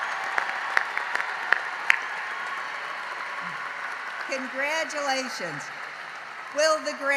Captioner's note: applause